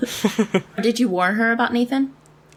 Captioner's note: laughs